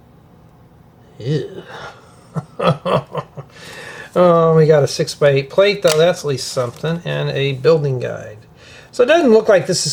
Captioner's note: laughter